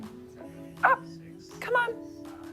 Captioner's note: tommy barks